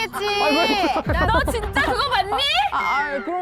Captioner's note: dramatic music; wounded pride sound effect